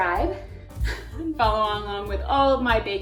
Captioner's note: chuckles